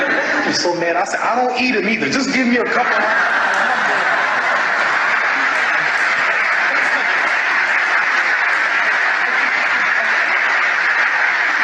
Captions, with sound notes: I was so mad, I said, "I don't eat them either, just give me a cup of coffee and a hamburger." (audience laughing)